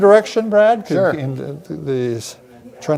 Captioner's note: speaking faintly